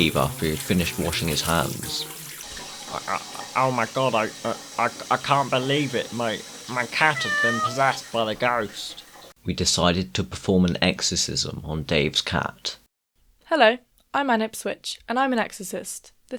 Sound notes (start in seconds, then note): 1.6 hand washing; 2.1 hands washing; 3.3 toilet flush; 5.6 toilet flush; 8.6 toilet flush